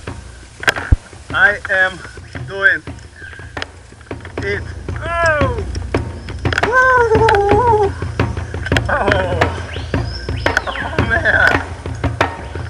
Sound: laughing

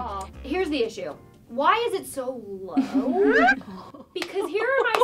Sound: laughs

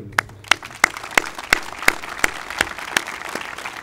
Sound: applauding

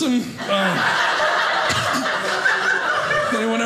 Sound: audience laughing

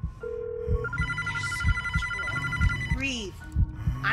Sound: phone rings

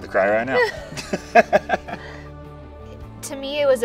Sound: both laughing

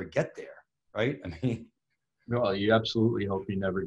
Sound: chuckles

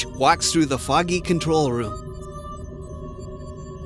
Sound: spaceship beeps and hums

